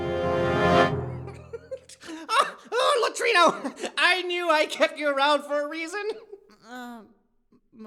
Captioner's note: bursts out laughing